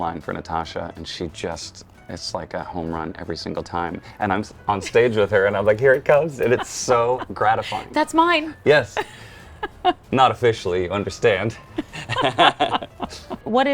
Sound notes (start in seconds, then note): 8.9 chuckles; 11.6 both chuckle